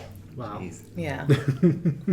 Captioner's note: laughs